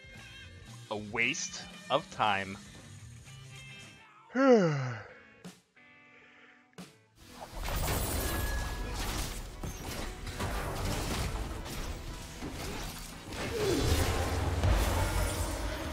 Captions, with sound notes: 'A waste of time...' *yawn*